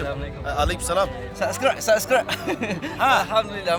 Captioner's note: laugh